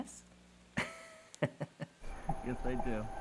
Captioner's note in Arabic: يضحك ناثان